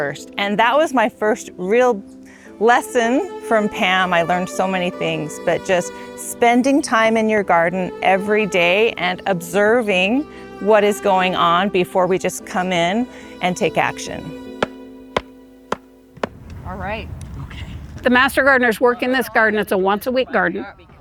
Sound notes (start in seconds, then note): 15.7 mallet whacking